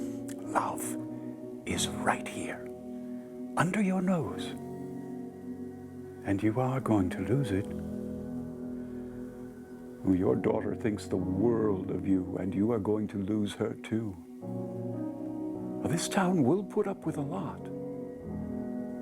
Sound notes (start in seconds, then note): none